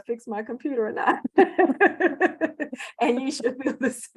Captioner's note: laughter